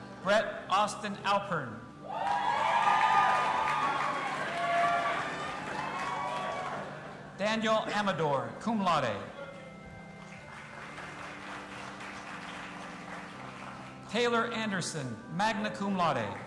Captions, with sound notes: Brett Austin Alpern. (audience applauding and cheering) Daniel Amador, cum laude. (audience applauding) Taylor Anderson, magna cum laude.